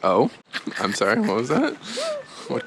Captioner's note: laughing